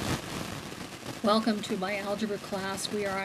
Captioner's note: voiceover